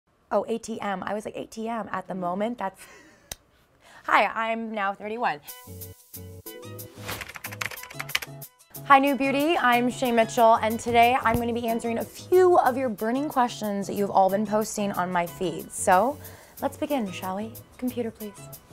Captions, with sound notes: - Oh ATM, I was like ATM, at the moment, that's-- Hi, I'm now 31. (bright music) (typing keyboard) Hi NewBeauty, I'm Shay Mitchell and today I'm gonna be answering a few of your burning questions that you have all been posting on my feed, so let's begin, shall we. Computer please.